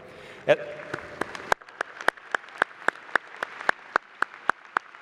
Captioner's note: applause